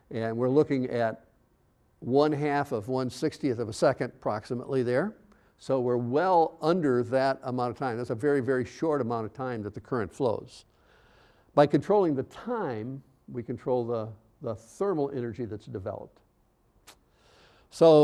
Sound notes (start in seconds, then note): none